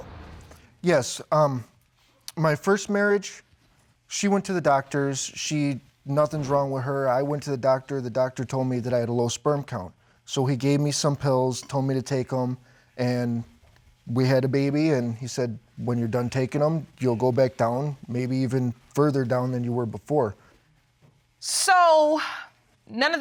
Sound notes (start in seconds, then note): none